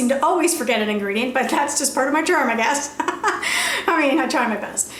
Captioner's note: laughs